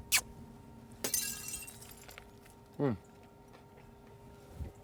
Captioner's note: smacks lips; glass shatters